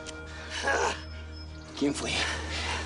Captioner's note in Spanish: Quejidos